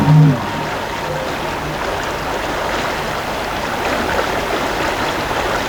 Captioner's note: running water continues